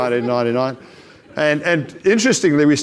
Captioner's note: audience laughs